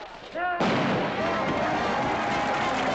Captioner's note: gunshot